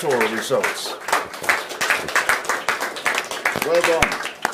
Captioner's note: applause